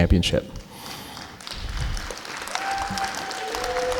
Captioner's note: clapping